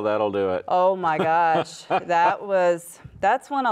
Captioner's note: laughs